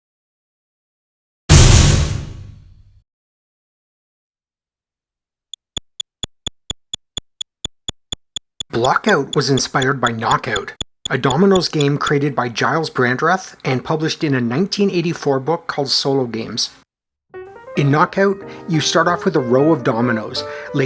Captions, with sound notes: [slam!] [clicking] Block-Out was inspired by Knock-Out, a dominoes game created by Gyles Brandreth and published in a 1984 book called Solo Games. In Knock-Out, you start off with a row of dominoes,